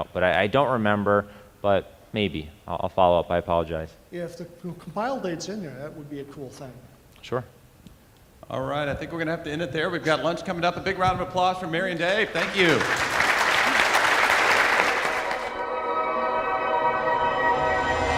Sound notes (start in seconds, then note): 12.0 audience applauding; 15.3 wondrous electronic music